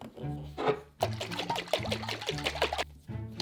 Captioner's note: liquid shaking